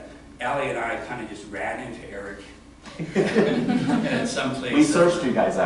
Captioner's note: laughter